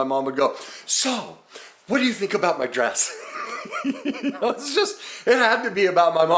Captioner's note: laughs